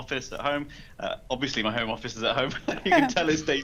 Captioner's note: laughs; chuckles